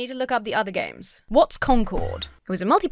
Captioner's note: Enderman whooshes